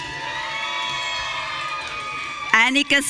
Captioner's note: audience cheering